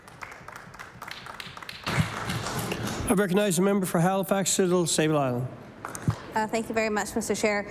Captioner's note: applause